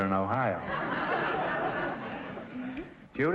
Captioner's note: audience laughter